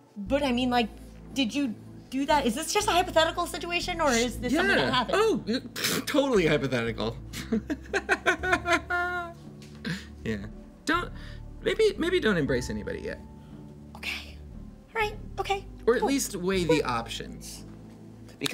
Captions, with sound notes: - But I mean like, did you do that? Is this just a hypothetical situation or is this something that happened? - Yeah, oh, pah, totally hypothetical. (X laughs manically) Yeah. Don't, maybe don't embrace anybody yet. - Okay, alright, okay, cool. - Or at least weight the options.